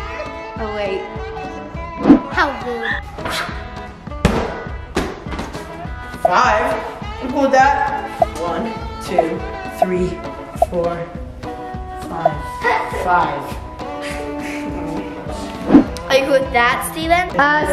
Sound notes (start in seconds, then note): 2.0 whoosh; 4.2 giant cube hits floor; 14.2 laughs